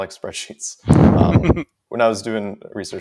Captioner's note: laughs